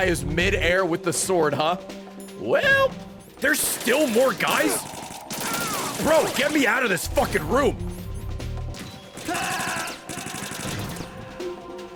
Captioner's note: screams